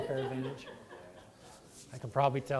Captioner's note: laughter